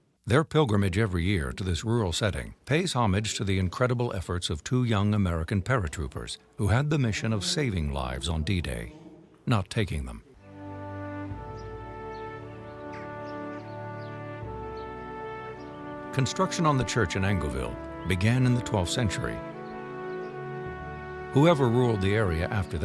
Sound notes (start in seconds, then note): 10.9 birds chirping; 10.9 tranquil ambient music